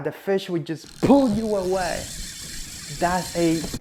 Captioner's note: fishing line creaks in background